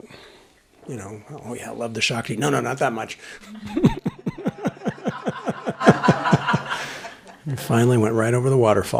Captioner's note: laughter